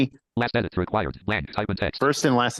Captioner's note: computer generated voice